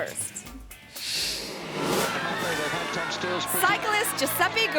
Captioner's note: air whooshes